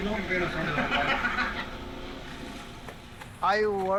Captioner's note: laughter